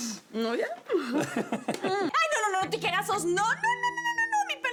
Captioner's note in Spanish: Risas